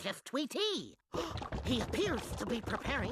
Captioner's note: gasping